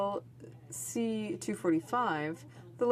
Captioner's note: speaking French